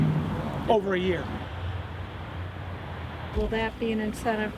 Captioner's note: traffic humming